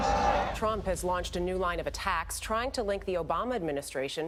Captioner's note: crowd cheers